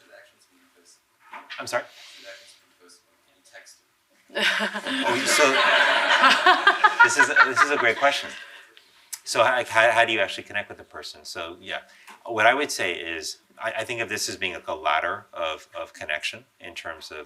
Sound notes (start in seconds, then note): 4.4 laughing